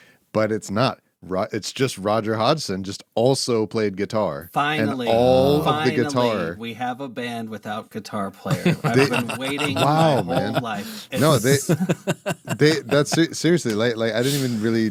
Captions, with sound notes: But it's not, it's just Roger Hodson just also played guitar. Finally, finally, we have a band without guitar player. I've been waiting my whole life. (laughing) Seriously, I didn't even really,